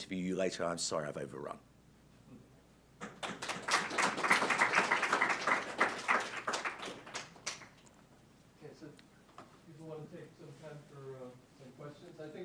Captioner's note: applause